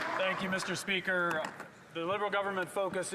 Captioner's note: some Applause